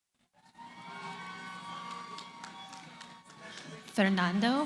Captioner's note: cheering